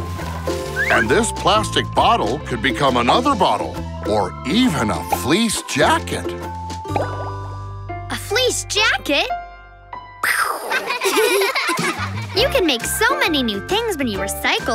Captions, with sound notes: And this plastic bottle could become another bottle or even a fleece jacket. A fleece jacket? [giggling] You can make so many new things when you recycle.